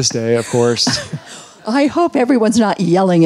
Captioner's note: all laughing